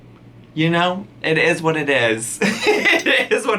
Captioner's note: laughs